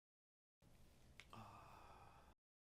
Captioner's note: sighs